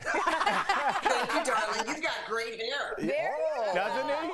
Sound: laughter

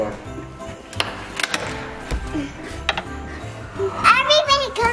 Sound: door rattling

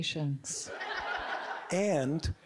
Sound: audience giggling

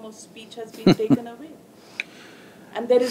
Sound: Sadhguru Laughs

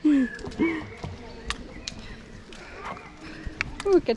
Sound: laughs

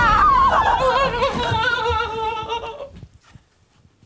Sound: both scream; both whimper

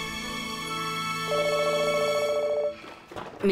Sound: phone ringing

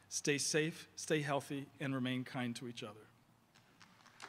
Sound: applause

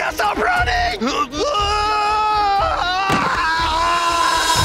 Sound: screams

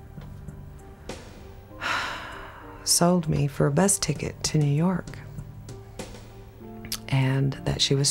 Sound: deep sigh

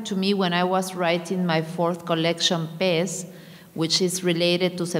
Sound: speaking in a foreign language

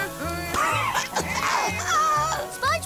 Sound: coughs

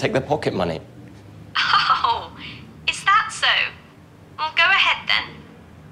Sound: female on phone mockingly

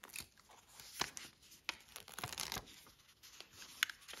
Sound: sound of glue tape

